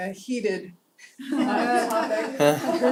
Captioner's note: laugh